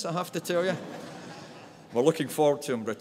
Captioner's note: audience laughs